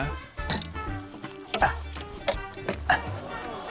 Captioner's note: wood cracks; audience exclaims